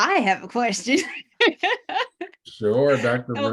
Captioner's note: laughs